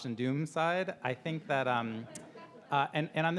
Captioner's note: audience laughing